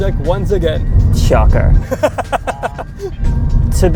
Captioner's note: laughing